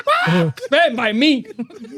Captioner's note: laughing